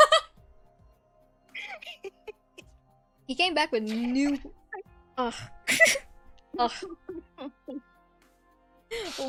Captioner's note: laughing, crying, rolling on the floor